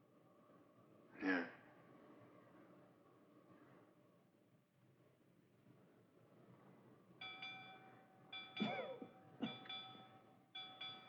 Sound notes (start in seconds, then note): 6.3 man Coughs; 6.3 ship's Bell Ringing